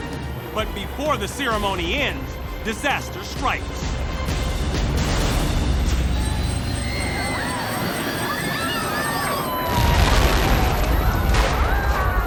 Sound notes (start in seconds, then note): 6.2 crowd screaming; 9.6 explosion